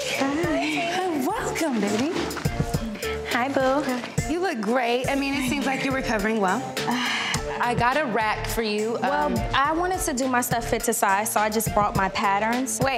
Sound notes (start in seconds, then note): 7.2 exhales